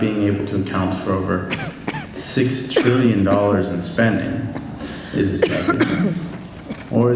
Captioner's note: coughing